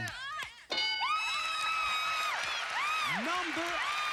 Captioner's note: screaming